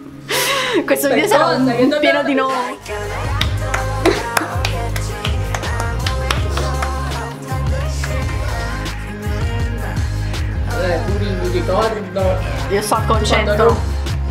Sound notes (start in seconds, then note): 3.4 applauding bc deserves it for this masterpiece